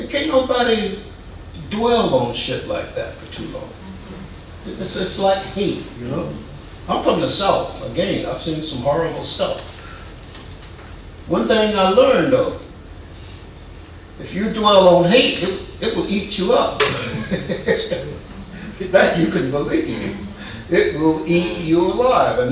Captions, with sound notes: Can't nobody dwell on shit like that for too long. It's like hate, you know? I'm from the south. Again, I've seen some horrible stuff. One thing I learned though, if you dwell on hate, it will eat you up. (man chuckling) That you can believe. It will eat you alive.